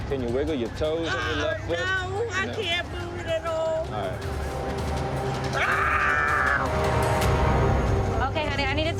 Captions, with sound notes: Can you wiggle your toes on your left foot? No, I can't move it at all. All right. [screams] OK, honey.